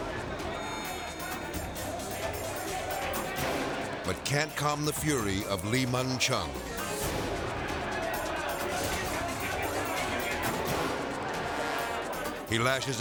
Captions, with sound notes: (politicians chattering) but can't calm the fury of Lee Mun Chung. (politicians clamoring) (thrilling music)